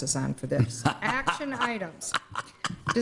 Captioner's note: laughing